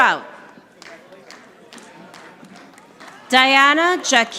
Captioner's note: audience applauding